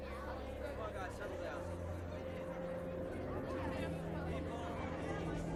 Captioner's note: voice echoing